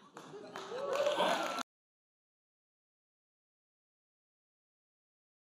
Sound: audience applauding

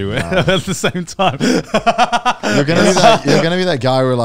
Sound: laughing

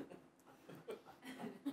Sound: laugh

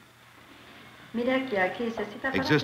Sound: speaking Spanish

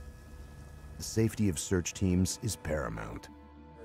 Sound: voiceover

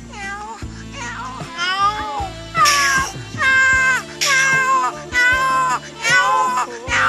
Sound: cats meowing

